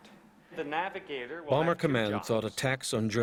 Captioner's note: voiceover